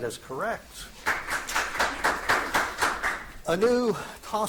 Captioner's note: audience applauding